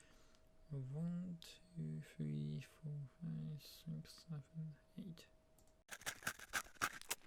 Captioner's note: counting up quietly; eating sound